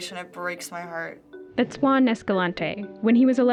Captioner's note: voice-over